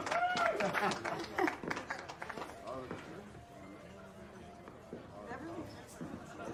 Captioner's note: crowd cheerining; crowd chattering